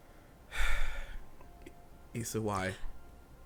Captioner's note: sighing